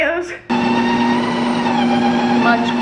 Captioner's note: Ninja Creami thrumming